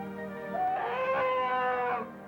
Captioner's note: growls